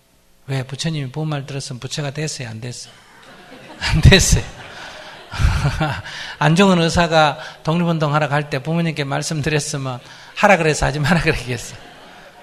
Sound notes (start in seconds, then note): 2.9 audience Laughter; 2.9 laughter